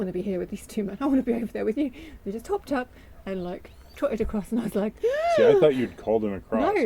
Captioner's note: gasp